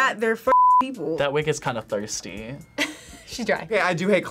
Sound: laughs

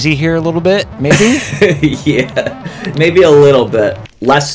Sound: laughs

